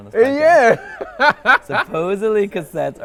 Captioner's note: laughs